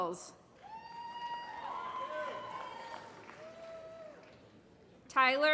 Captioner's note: applause